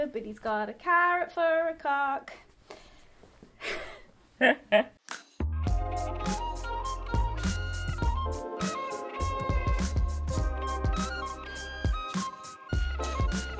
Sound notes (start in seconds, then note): 4.4 laughs; 5.4 relaxing music